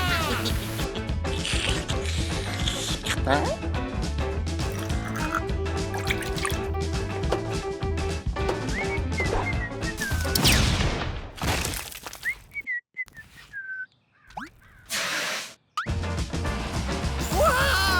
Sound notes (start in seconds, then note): 1.3 snickering; 1.5 slurping; 4.6 liquids pouring; 8.5 whistling